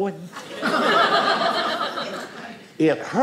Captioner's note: audience laughing